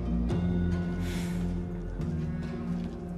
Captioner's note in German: Seufzen